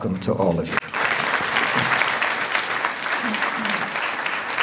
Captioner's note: applause